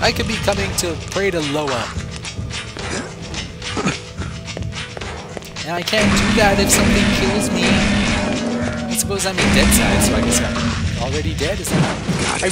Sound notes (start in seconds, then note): 6.0 gunshots